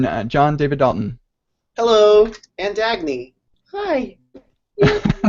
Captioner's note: laughs